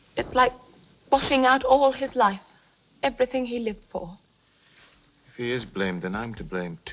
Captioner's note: none